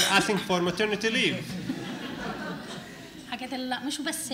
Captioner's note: laughter; speaking arabic